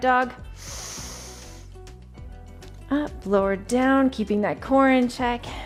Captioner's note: breathes deeply